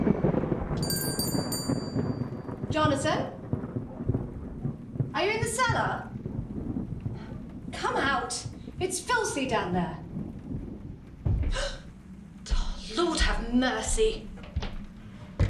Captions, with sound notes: Jonathan? Are you in the cellar? Come out it's filthy down there. [Heavy footsteps] Lord have mercy.